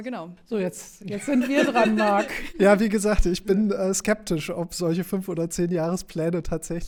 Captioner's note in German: gelächter